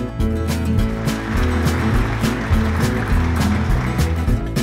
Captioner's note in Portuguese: aplausos